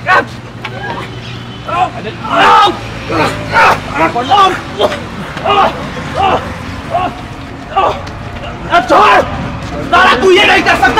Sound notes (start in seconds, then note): 7.7 screaming